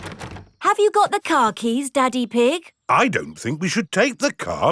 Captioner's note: door rattles